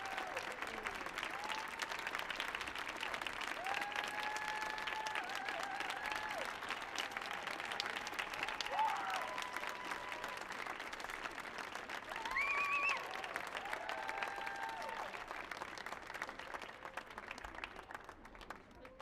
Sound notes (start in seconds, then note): 12.2 audience whistling; 12.5 audience clapping